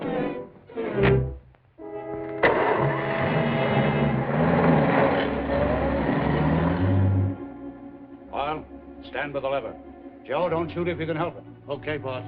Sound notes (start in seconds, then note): 1.7 engine rumbling